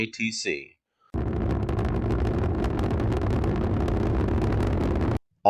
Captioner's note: launching Sound Effects